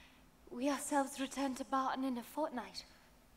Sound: none

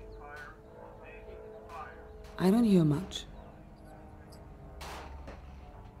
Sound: airplane engine roaring

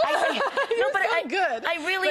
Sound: laughing

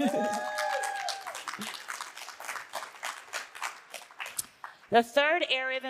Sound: audience cheering and applauding

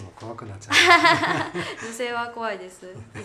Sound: laughter

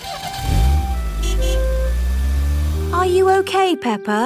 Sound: horn honks

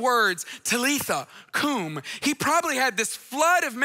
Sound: speaks in foreign language

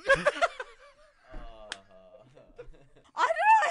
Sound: laughs; groans in unison

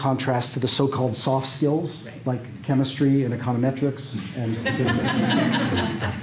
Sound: laughter

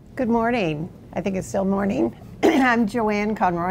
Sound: coughs lightly

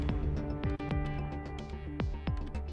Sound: none

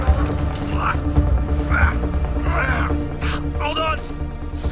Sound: grunting

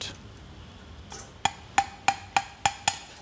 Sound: hollow sound when tapping

